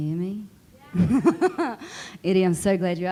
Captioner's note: laughing